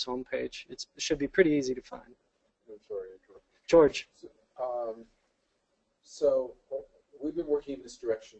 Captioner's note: off mic